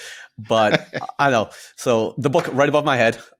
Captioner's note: laughs